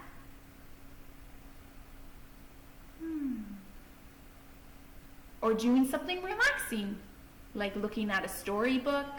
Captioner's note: takes a deep breath; sigh